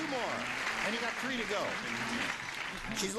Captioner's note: ringing, applause